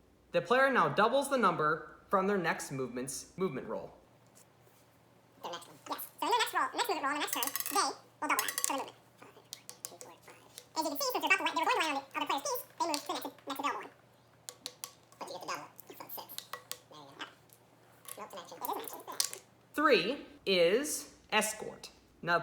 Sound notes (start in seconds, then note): 4.6 fast Forwarded Sounds